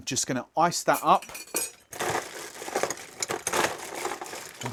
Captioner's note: ice clinking